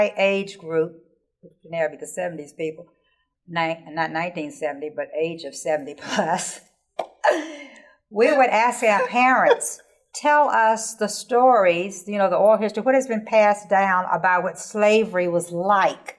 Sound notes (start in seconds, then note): 6.2 laughing